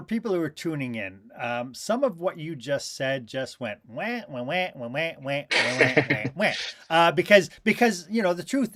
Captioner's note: laughter